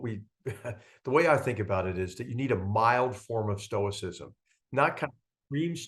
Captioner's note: laugh